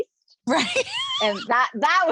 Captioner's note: laughing